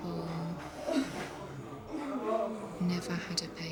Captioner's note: groaning